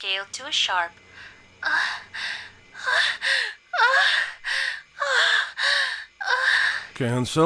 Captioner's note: sounds of pleasure